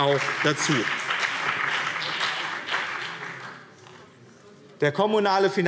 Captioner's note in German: Beifall BÜNDNIS 90/DIE GRÜNEN und CDU